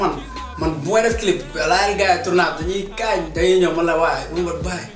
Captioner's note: laughs